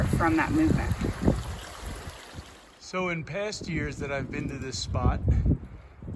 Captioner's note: light wind noise